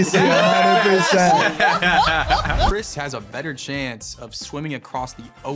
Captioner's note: group laughing loudly